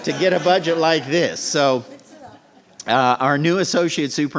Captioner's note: laughter